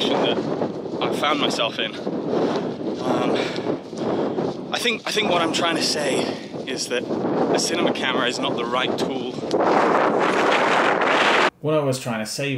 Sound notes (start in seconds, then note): 9.4 crazy wind